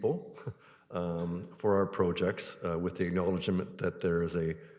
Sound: chuckles

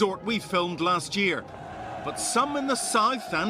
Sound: cheers

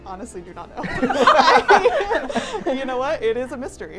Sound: all laughing

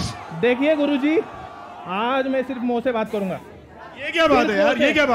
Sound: non-english speech

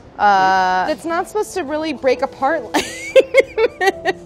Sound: laughs

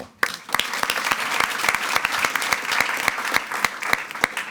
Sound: attendees clapping

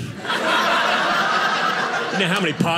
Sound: audience laughing

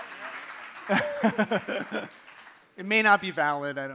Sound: laughs

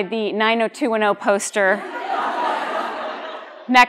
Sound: laughter

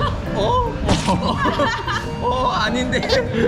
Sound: laughing

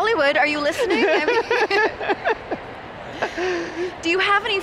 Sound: laughing

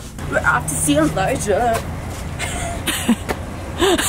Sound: laughs

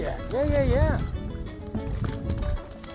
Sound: water splashing

